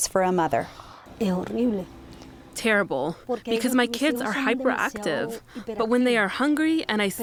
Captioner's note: through translator